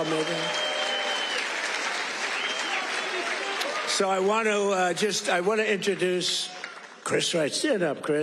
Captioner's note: cheers